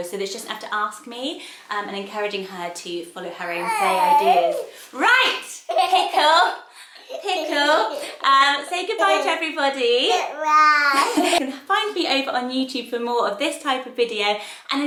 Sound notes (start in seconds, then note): 10.9 giggling